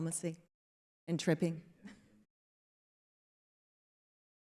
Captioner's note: chuckles